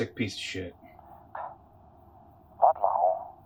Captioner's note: Gem scoffs